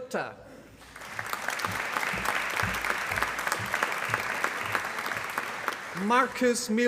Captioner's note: applause